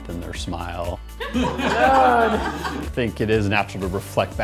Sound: all laughing

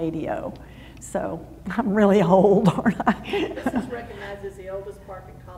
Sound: laughs

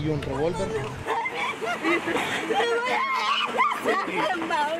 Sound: sobbing

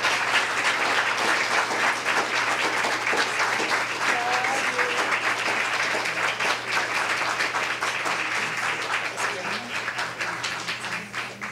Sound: applause

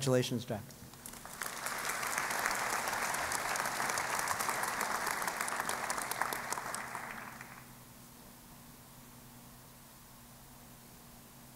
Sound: applause

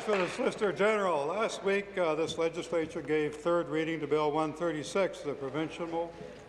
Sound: applause

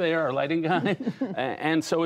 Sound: laughter

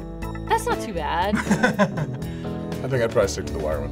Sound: laughs

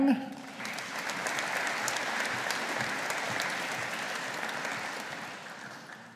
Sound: audience applauding

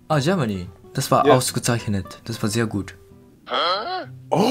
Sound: German

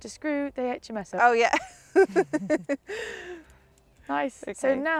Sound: laughs

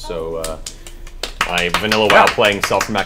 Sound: all cheer

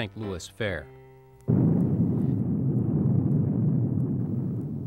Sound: booming

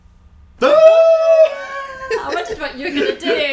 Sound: screams

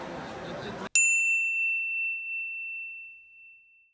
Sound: bell ringing

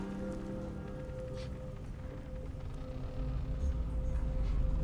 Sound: Oscar sniffing

